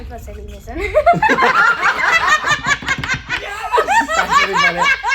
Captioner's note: all laughing hysterically